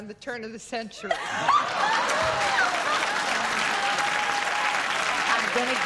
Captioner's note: laughter